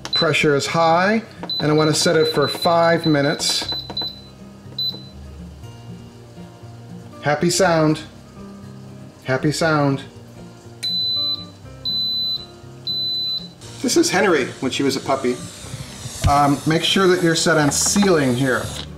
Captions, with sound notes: Pressure is high, and I wanna set it for five minutes. Happy sound. Happy sound. (beeping) This is Henry when she was a puppy. Make sure that you're set on sealing here.